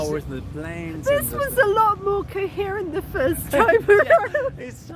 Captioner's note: laughing